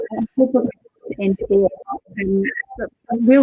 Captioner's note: audio distorts